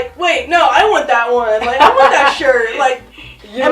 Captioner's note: laughs